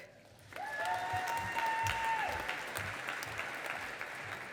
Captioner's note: audience applauding